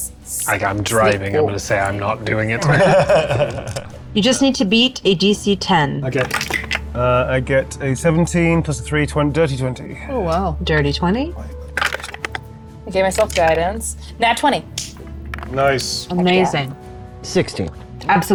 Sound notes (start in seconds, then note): 2.6 laughing; 6.2 dice rattling; 11.7 dice rattling; 14.7 palms clapping